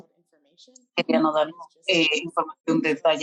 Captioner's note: speaking Spanish